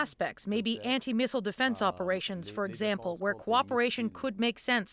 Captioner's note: speaking French